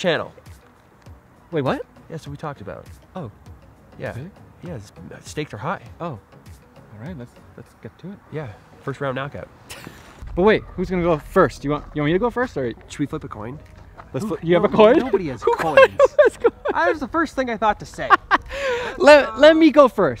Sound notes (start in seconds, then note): 14.3 laughing